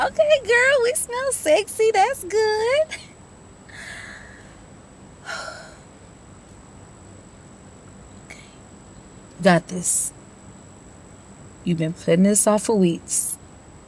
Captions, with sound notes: Tonight, you tell him exactly how you feel. No holding back. (sighs) All right, that's cool girl.